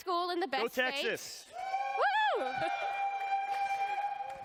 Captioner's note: cheering